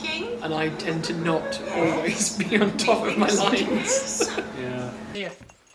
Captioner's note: laughs